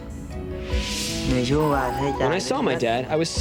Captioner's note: non-english speech